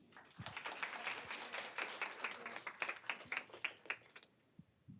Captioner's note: applause